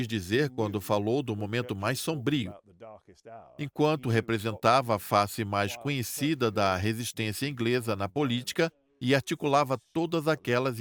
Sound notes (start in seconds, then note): none